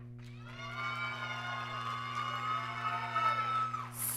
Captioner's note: applause